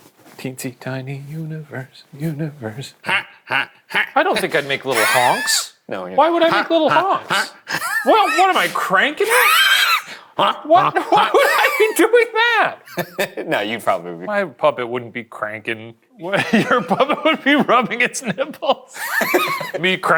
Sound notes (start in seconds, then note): 3.0 mimics goose honking; 12.9 laughs